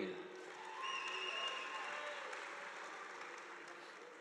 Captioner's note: audience applauding